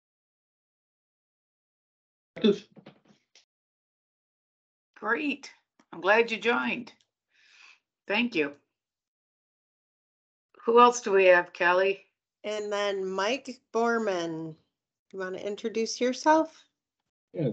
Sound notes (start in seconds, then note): 2.4 vocalizing